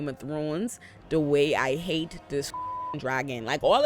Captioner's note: beep